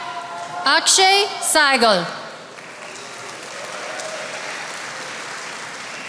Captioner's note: attendees applauding